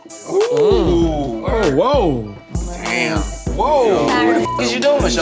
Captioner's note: men gawking